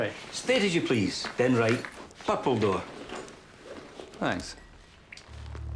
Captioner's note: speaks foreign language